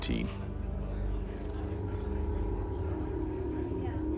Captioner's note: people chatting